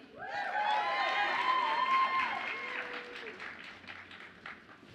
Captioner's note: audience applauds and cheers